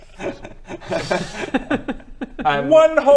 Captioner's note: giggles